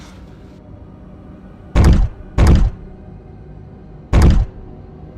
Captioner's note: objects clanging